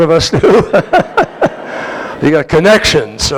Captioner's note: laughter